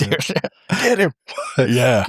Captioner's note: laughter